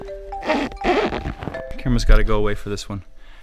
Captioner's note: squeaking